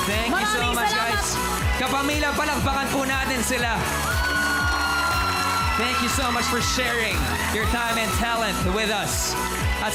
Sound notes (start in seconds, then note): 4.0 audience cheering, clapping